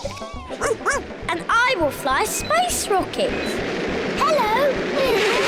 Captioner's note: all laugh; barks; all laugh